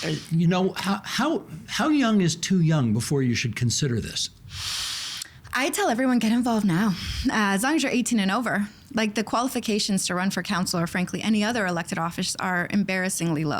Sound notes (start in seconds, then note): 4.4 inhaling sharply